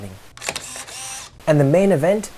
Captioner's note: camera Click